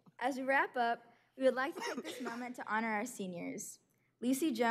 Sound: laughter

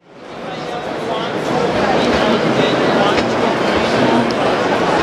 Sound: large crowd sounds

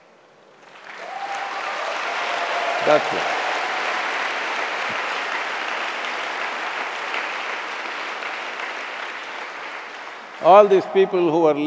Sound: applause

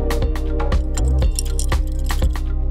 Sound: ice tinkling

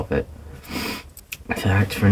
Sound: sniff

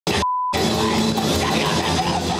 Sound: beep

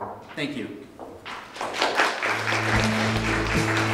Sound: audience claps

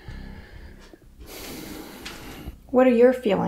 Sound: he exhales

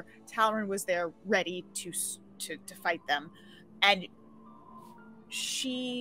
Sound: none

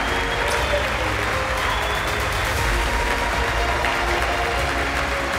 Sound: crowd cheering continues

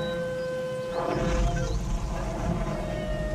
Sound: fire roaring

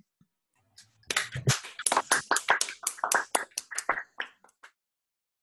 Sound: clapping

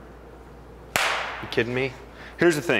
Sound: hands clapping

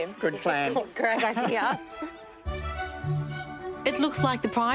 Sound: chuckles

